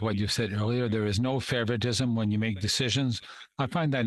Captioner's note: speaking French